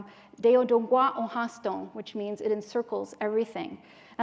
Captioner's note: non-english speech